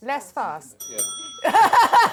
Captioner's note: dinging; laughter